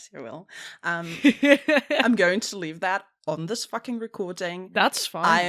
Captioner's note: ROVER laughs